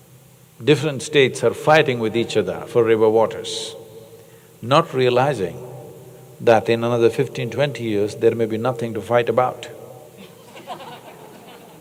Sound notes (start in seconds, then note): 10.2 laughter